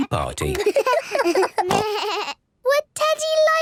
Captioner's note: giggles, snorts